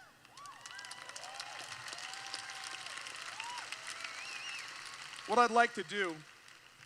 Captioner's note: applause